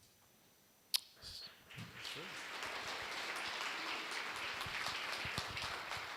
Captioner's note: applause